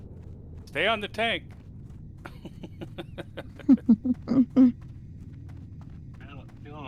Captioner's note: laughter